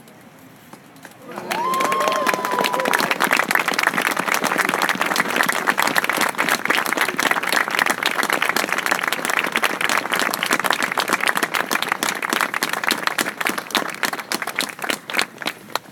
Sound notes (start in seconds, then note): 1.2 applause, cheering